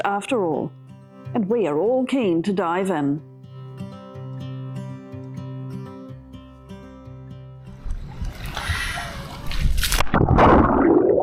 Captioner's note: inbreath and splash